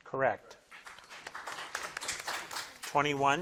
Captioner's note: crowd claps